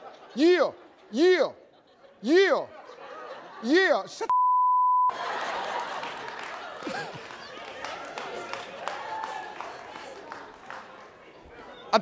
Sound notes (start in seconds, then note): 5.1 crowd laughing